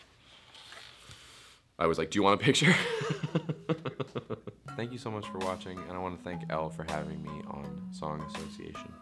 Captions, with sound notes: I was like, "Do you want a picture?" (laughs) Thank you so much for watching and I wanna thank Elle for having me on song association.